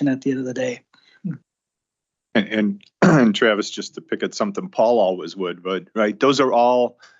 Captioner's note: clears throat